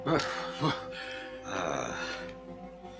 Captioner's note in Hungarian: fázósan nyögdös